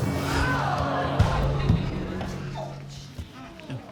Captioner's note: audience exclaiming